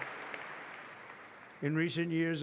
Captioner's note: applause